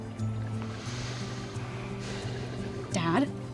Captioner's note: sighs